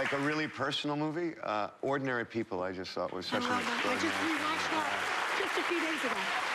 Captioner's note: cheers and applause